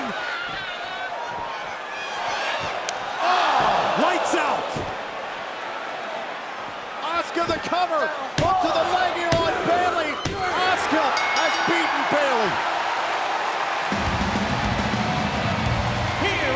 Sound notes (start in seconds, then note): 11.0 bell rings; 13.4 crowd claps and cheers